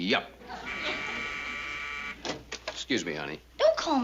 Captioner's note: buzzing